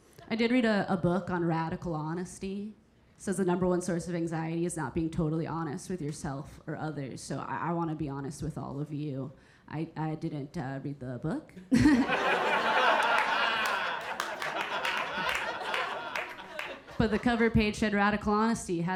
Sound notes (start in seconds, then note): 11.7 audience laughing